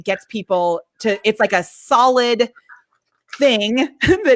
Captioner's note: laughs